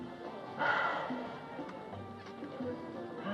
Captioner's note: sighs